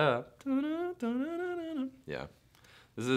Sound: humming

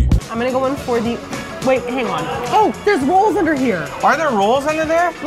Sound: creepy porn voice; normal voice

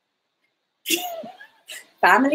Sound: both laughing

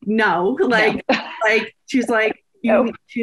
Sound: laughs

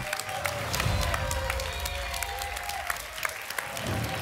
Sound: applause and cheering; whoosh

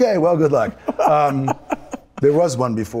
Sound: Michael laughs

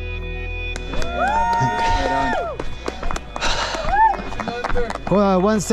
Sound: people cheering

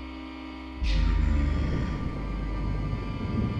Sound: demonic Voice

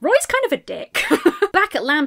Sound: laughs

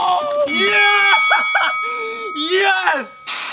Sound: bell dinging

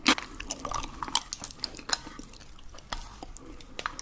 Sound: eating with a spoon

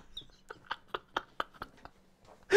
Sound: laughs

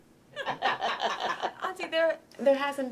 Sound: all laughing

